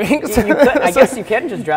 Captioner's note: laughing